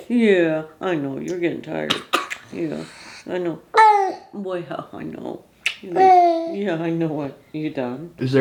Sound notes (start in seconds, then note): 1.9 coughing; 5.9 vocalizing